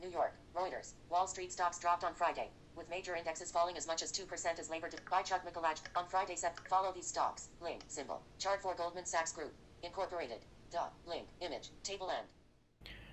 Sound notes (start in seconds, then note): 6.5 click